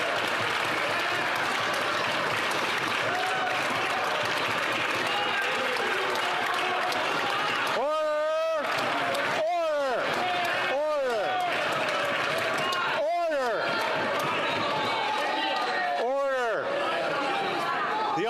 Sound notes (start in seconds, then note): 8.2 some Applause